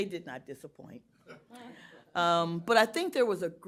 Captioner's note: laughter